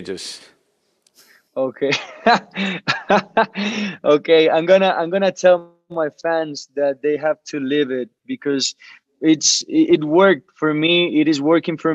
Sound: laughs

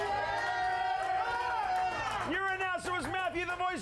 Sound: audience cheering

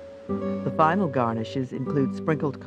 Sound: voiceover

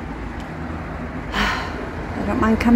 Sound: sigh

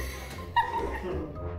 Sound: actors laugh

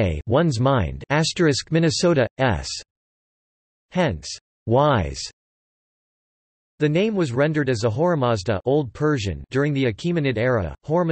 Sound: old Persian

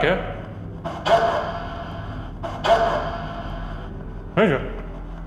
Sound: radio feedback

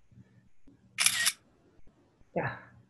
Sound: camera flicks

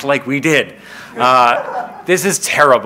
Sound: laughing

